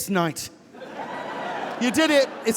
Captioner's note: audience laughing